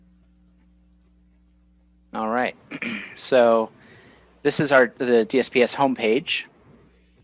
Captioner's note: clears throat